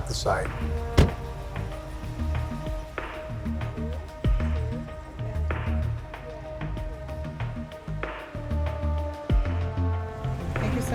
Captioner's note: background muttering